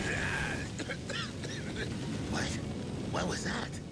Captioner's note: coughing